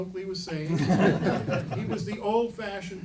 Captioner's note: laughing